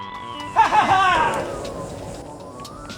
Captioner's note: laughs